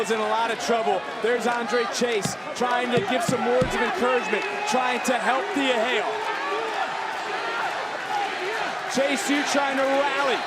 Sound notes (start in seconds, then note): 7.9 crowd chants "thea"